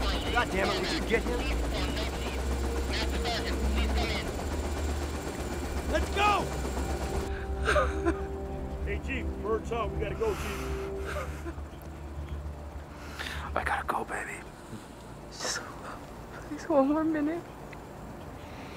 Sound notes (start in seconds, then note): 7.3 sobs